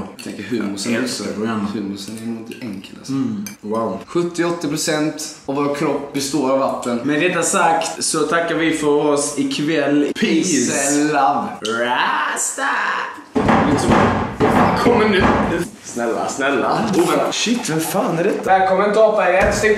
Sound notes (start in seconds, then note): 13.3 knocking on the door